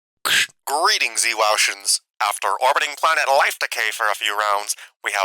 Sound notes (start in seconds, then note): 0.3 intercom crackling sfx